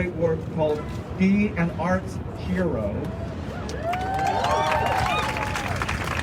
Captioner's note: crowd cheering